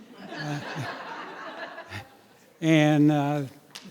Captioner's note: audience applauding